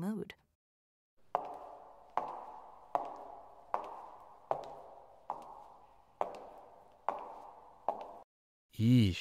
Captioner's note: footsteps briefly sound off